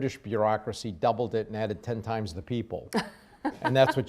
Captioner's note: laughs